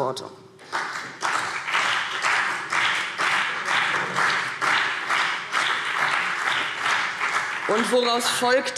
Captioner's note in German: Beifall CDU und BÜNDNIS 90/DIE GRÜNEN